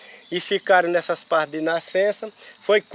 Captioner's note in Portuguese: Sons de insetos no mato